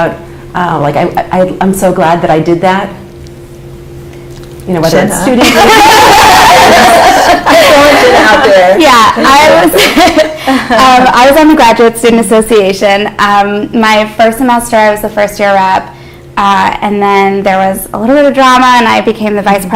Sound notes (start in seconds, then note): 5.4 laughter